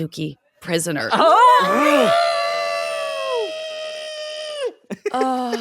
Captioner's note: yelling; laughing